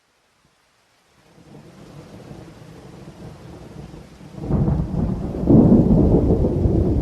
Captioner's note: thunder